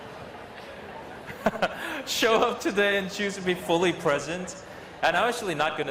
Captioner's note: laughs